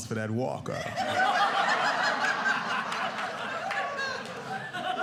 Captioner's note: audience laughing